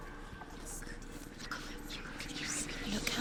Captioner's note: whisper